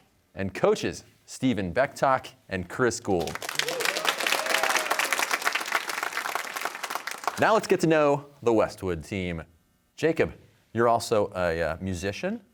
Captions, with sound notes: and coaches Stephen Bechtok and Chris Gould. (cheers and applause) Now let's get to know the Westwood team. Jacob, you're also a musician.